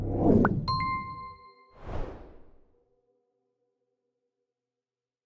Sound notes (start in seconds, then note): 0.0 logo whooshing; 0.6 logo tings; 1.8 logo whooshing